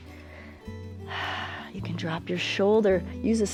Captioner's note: exhales